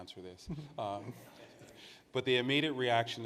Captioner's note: participants laugh